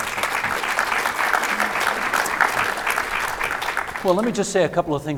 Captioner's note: audience applauding